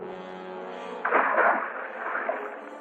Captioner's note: splash